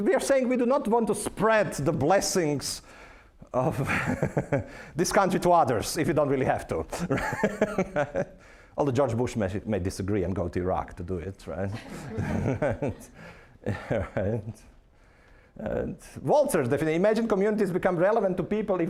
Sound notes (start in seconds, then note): 4.2 laughing; 8.1 laughing; 11.7 audience chuckling